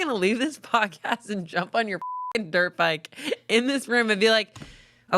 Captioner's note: beep